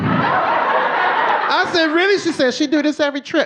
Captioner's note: audience laughing